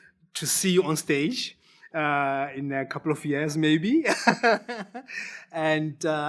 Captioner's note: laughs